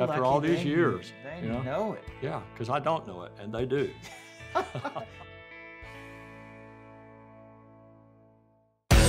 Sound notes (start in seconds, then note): 3.9 laughing jokingly